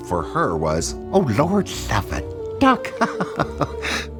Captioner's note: laughing